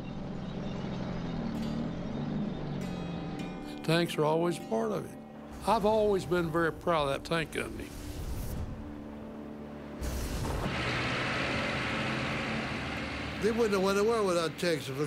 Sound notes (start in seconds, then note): 0.0 tanks rumbling; 8.7 tank rumbling; 10.0 flamethrower roaring